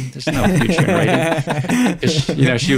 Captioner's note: all laugh